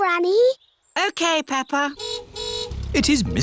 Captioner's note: car horn honks